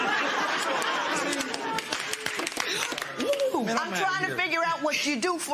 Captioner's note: laughter